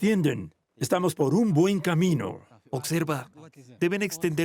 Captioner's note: Arabic spoken audio